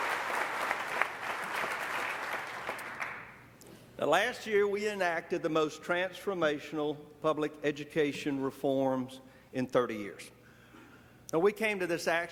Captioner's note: applause